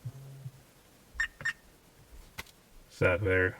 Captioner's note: dash cam beeps